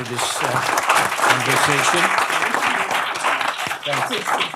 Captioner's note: applause